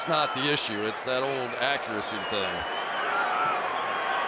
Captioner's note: cheering